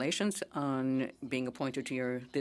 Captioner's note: speaking French